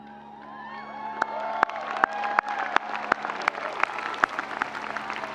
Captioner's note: audience applauding